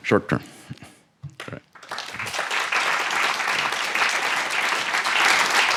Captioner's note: audience claps